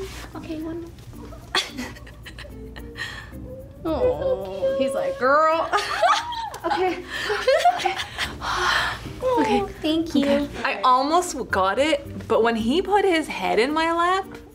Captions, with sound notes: - Okay. One more. - (chuckles) - Awww. he's like, "Girl!" (laughs) - Okay. Okay. (sighs) Okay. I'm good. - Aww, thank you. - I almost got it, but when he put his head in my lap...